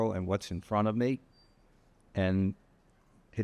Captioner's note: none